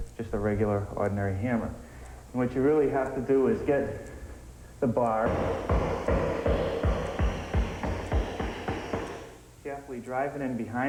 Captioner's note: pounding